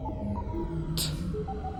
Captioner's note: making "t" sound